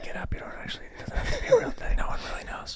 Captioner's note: whispering